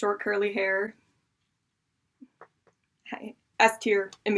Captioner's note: seductive silence